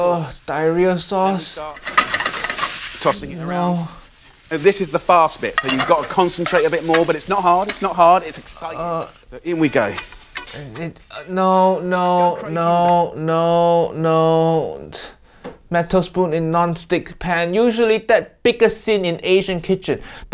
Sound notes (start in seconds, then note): 8.7 Uncle Roger groans